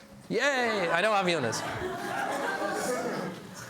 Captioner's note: laughs